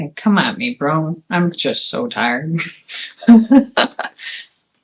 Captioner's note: laughs